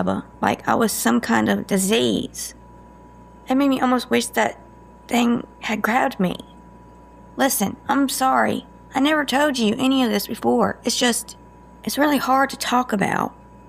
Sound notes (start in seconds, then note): none